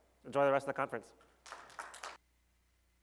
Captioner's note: applause